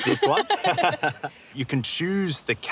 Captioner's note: both laugh